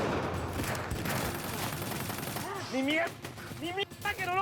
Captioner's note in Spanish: tiroteo